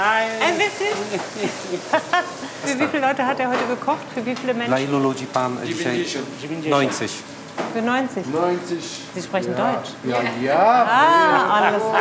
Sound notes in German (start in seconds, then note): 5.0 spricht polnisch